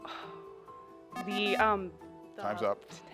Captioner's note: buzzer buzzes